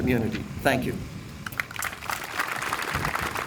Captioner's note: applause